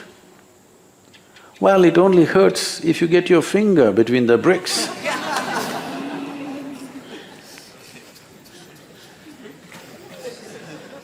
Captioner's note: laughter